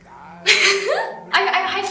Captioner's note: laughs